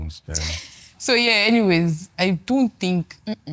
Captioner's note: laughs